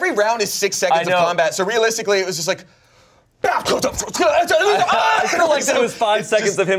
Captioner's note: grunts and yells